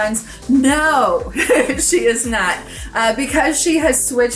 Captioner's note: laughs